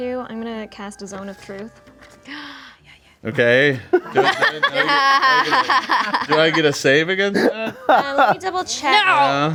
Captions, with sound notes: I'm gonna cast a zone of truth. (group sneers and laughs) - Do I get a save against that? - Let me double check.